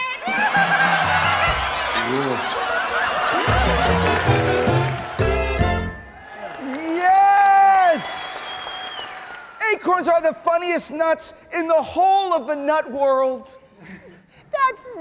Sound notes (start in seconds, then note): 3.3 whimsical music; 5.8 audience clapping